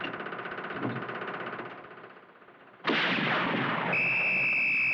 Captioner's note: blows Whistle; gunshot